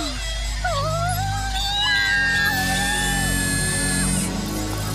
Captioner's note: screaming